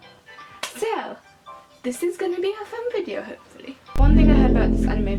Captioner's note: claps